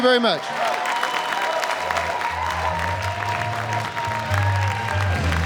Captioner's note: cheering and applause